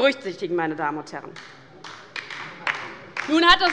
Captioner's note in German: Beifall bei der LINKEN